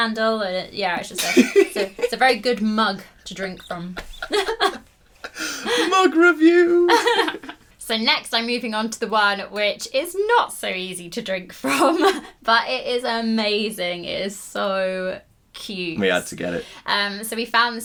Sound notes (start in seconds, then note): 3.7 laughing